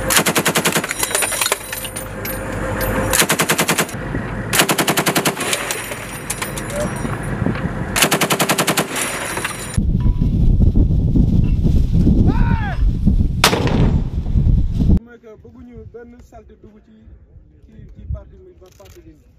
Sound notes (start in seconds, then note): 0.1 rapid gunfire continues; 13.4 mortar round is launched; 15.1 distant Chatter